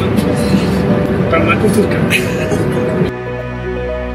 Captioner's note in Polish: śmieje się